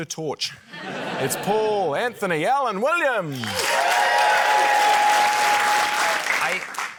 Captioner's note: laughter; cheering, applause